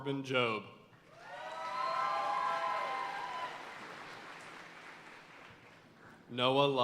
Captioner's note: audience cheering and applauding